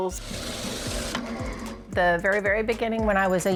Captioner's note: machine whirring